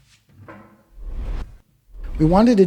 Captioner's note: transition whooshes